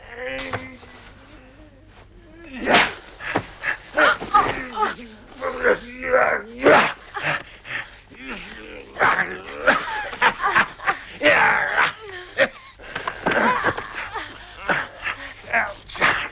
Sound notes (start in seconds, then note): 0.2 Torente grunting; 4.1 Hundra grunting; 9.2 Torente growling; 13.4 Hundra groaning